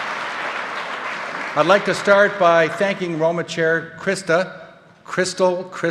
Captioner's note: applause